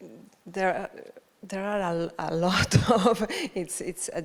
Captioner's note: chuckles